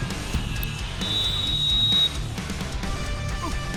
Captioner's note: whistle blowing